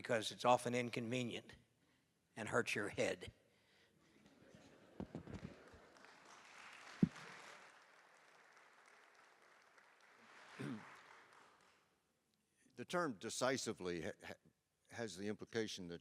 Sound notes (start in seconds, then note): 4.2 laughter; 5.0 applause